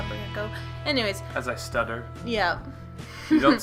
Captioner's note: chuckles